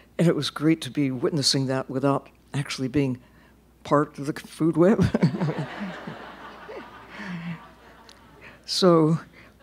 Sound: laughter

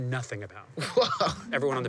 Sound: laughing

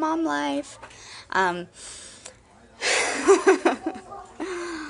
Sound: laughs

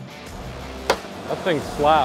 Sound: machine slaps against wood posts

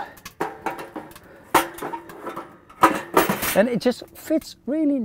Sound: kettle clinks

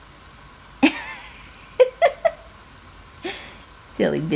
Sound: laughing

